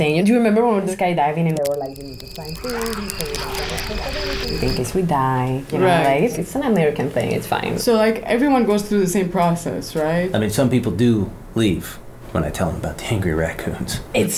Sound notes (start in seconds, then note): 2.3 voice muffled; 3.4 distant animals, wood cracking